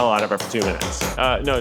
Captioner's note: hand smacking